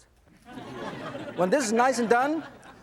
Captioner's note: audience laughs